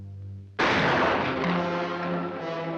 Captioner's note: gun fires; dramatic music